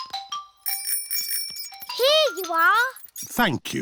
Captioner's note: bell rings